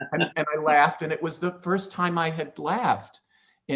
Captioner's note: laughing